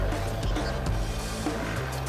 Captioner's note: drilling